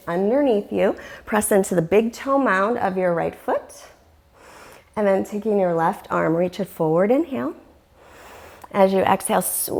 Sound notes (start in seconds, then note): 4.3 deep breathing sounds